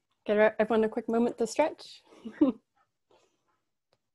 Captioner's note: laughs